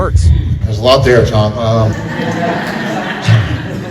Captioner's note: laughter